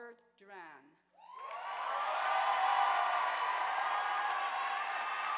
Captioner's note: audience applauding